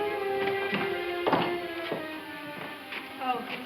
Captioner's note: door opening